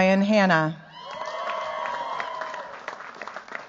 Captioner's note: cheers, applause